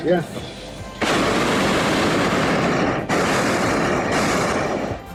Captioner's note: burner roars